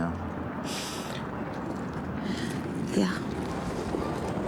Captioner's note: inhales deeply